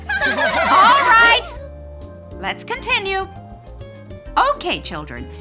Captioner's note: children giggling